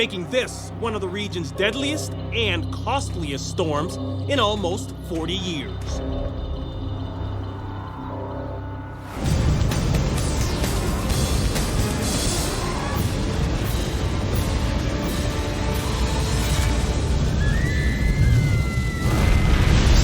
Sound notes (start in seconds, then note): 17.3 girls screaming